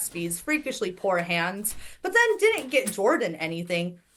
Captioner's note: none